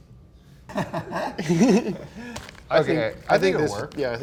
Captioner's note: laughs